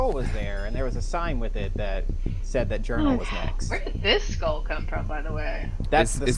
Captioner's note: stompy